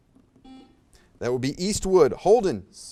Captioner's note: buzzer beeps